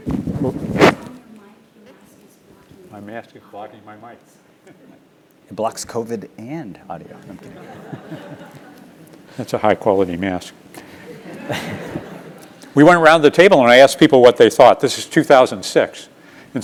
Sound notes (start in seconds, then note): 0.0 laugh; 7.9 laugh